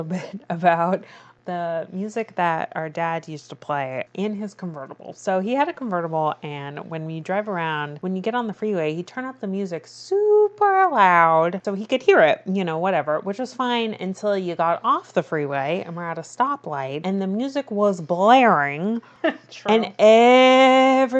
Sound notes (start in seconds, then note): 19.2 laughs